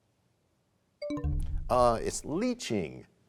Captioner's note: bell chimes, time expires